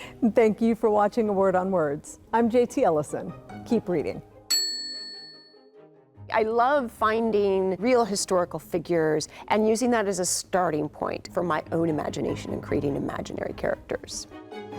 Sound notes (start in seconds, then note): 4.5 bell chiming; 4.6 light upbeat music; 14.5 light upbeat music